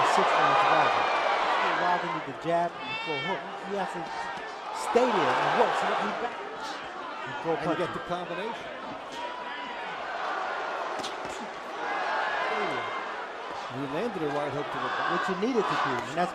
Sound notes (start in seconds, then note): 3.9 cheers; 12.5 cheer